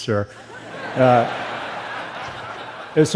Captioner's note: laughter